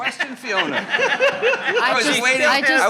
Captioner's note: attendees laughing